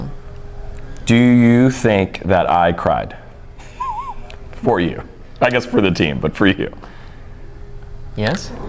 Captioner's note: laughs